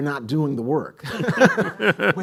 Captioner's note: laughs